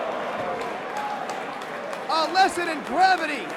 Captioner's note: crowd cheering